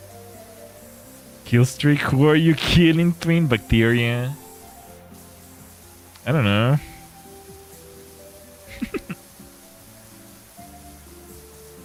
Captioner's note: laughter